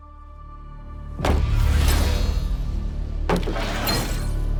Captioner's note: magic flashing; plank thuds; magic flashing; plank thuds